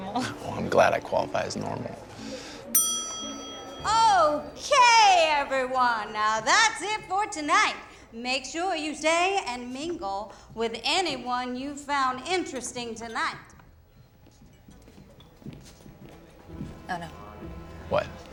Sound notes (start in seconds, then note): 2.7 bell dings